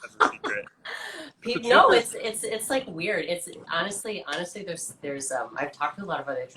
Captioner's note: laughs